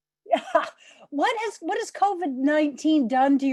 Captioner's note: laughter